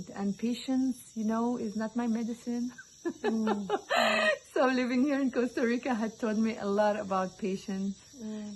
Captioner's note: laughing